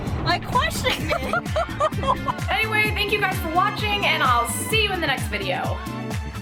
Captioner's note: laughing